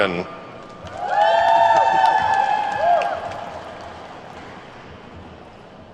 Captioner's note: attendees whooping and clapping